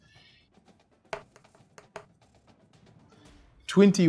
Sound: dice thudding

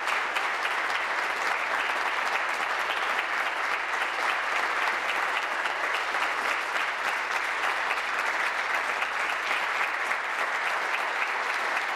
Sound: applause

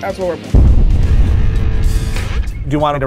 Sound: explosion echoes

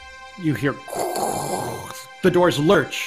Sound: growls

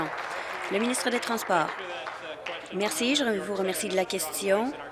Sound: applause

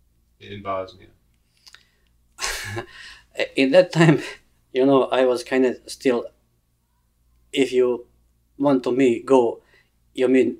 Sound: laughs

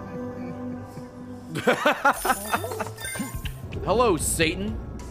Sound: laughs

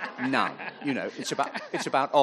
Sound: audience laughing

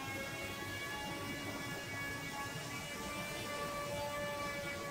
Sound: background buzzing sound

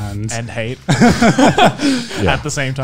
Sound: laughing softly

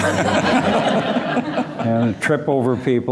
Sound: laughter

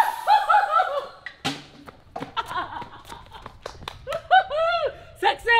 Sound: laughing

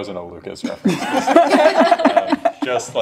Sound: laughs

